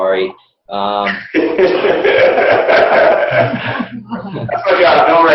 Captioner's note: laughing